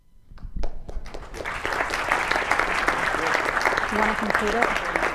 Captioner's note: clap